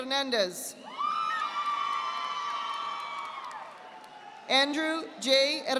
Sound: audience applauding

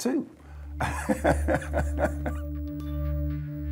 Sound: laughs

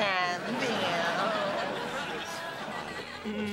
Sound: laughter

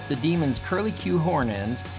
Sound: none

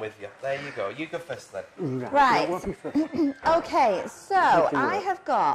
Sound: clears throat

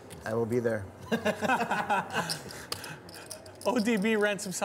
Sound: chuckling

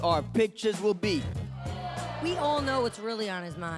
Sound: audience groans

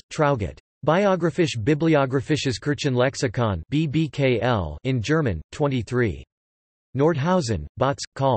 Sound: in German

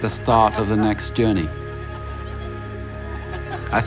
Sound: laughs

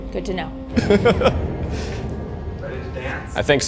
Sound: chuckling

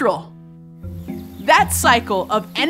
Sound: bird chirping

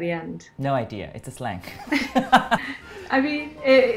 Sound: laughs

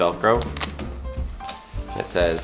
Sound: velcro sound

